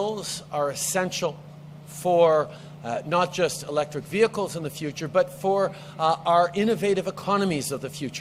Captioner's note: speaks French